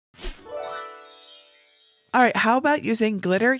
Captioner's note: graphics whooshing; graphics tinkling